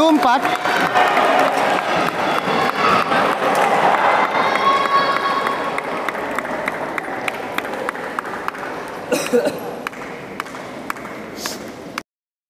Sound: applause

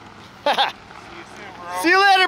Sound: laughter

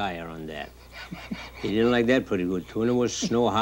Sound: man laughing

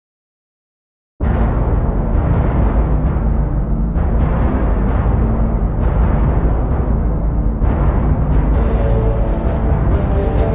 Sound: sound of dark scrape

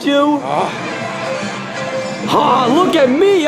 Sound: Sonic grumbles

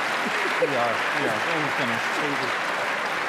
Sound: applause; laughter

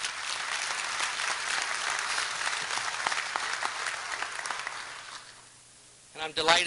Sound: applause

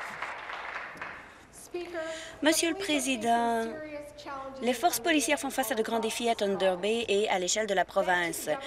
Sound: applause

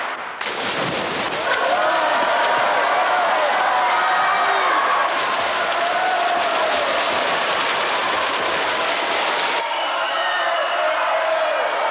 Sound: crowd cheer

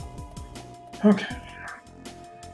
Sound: sighing

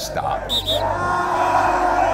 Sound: whistle sounds

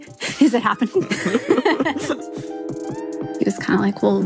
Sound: both laugh

